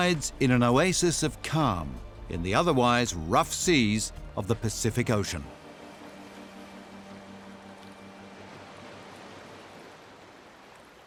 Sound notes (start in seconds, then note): 6.7 water purling